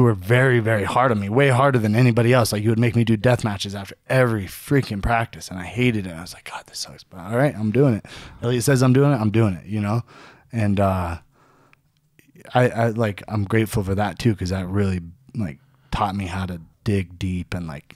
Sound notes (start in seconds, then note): none